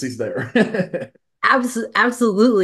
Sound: laughs

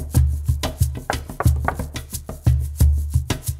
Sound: knocking

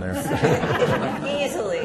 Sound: laughter erupts

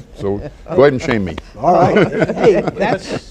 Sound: laughter

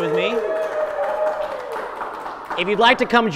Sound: audience claps

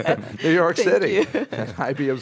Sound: laughs

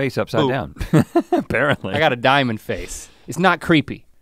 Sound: chuckles

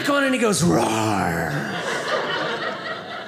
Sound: audience laughing

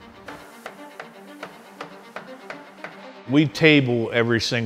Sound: hammer pounding

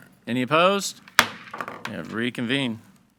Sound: gavel thuds

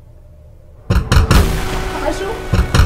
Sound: door Knocks

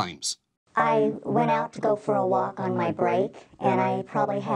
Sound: distorted voice

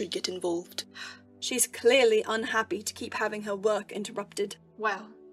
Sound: Pomfrey huffs

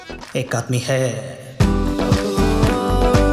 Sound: in Hindi

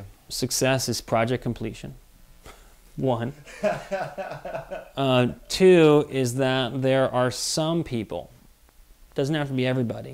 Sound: laughs

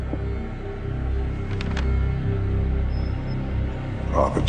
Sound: paper rustling

